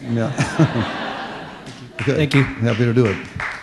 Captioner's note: laughter